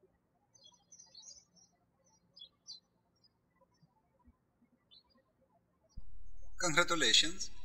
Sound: birds chirping

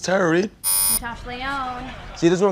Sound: buzzer

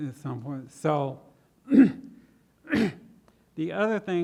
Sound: clears throat

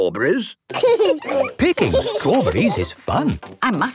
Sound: laughing

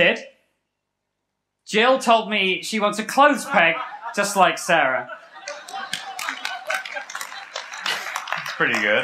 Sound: laughter

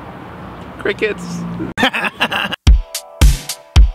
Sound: Laughing In Spanish

